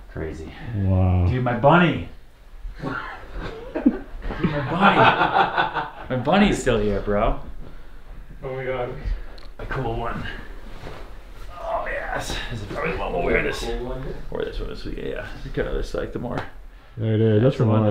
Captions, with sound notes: Crazy - Wow Dude, my bunny! (laughter) My bunny! My bunny is still here, bro. - Oh my god A cool one. Ah, yes. I think I'm gonna wear this. - A cool one? Yeah, this kind of looks like the more, - Yeah, it is.